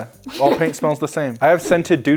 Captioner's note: laughing